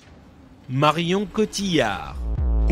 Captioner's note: perfect french